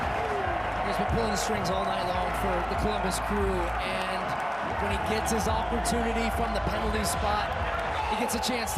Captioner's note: applause